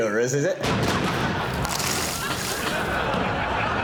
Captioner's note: explosion